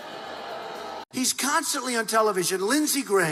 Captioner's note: crowd booing